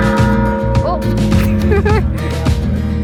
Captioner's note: laughing